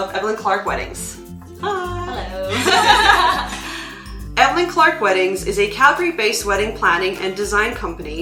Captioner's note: laughter